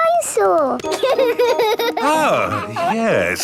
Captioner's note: giggles